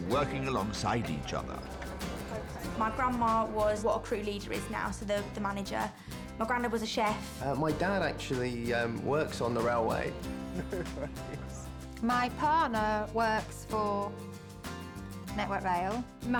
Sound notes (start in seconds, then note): 10.1 laughing